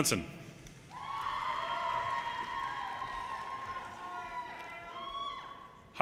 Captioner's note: audience cheers and applause